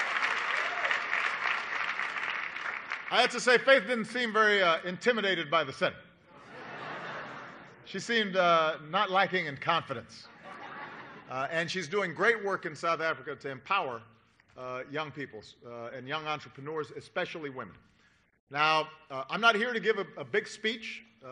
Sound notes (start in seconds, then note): 0.0 applause; 6.7 applause; 10.3 laughter